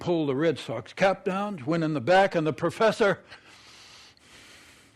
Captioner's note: sighs heavily